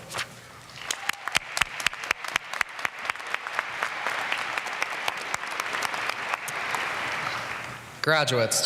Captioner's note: applause